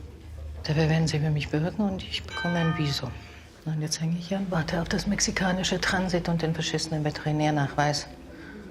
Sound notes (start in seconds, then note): 2.3 bell chimes